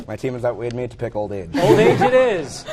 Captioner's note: laughter